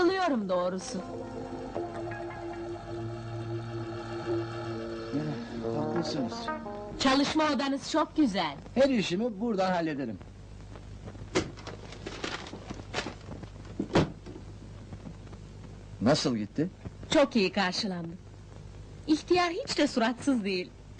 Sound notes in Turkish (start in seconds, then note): 11.7 kapi açilma sesi̇; 11.7 kapi kapanma sesi̇